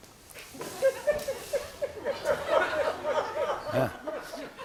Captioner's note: laughter